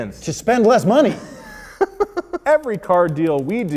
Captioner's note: laughing